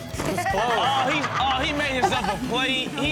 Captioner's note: laughs